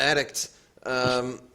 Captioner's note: chuckles